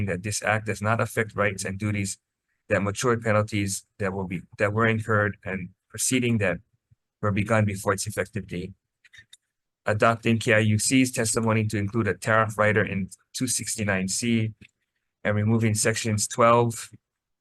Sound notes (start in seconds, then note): none